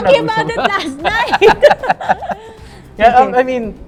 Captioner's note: laughs